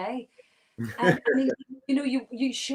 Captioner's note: laughs